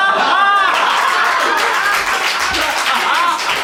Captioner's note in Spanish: Risas y aplauso